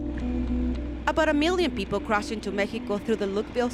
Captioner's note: voiceover